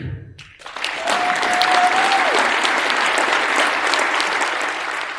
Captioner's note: attendees applauding